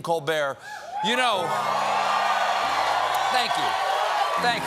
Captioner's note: applause